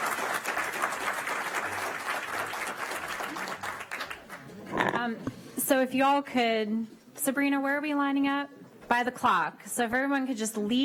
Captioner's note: applause